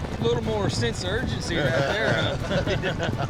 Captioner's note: chuckling